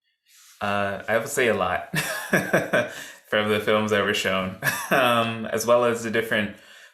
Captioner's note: laughs